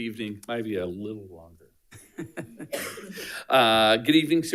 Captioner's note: laughs